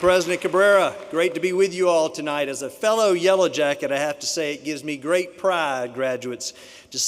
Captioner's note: applause